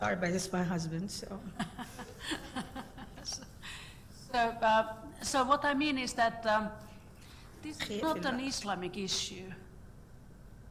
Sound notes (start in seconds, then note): 1.6 laughing